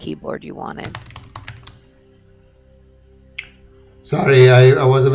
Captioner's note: keyboard typing